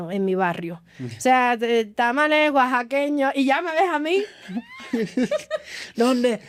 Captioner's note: laughs